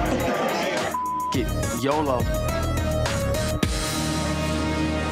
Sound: beeps

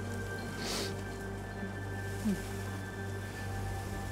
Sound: sniffs

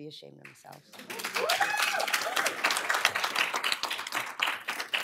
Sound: applause, cheering

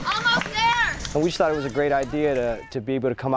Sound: clapping

